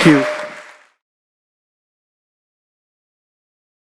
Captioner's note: audience applauding